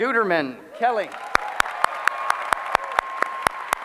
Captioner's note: applause